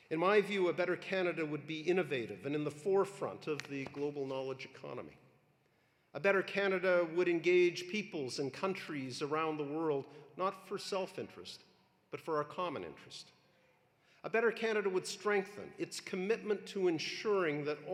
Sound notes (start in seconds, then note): none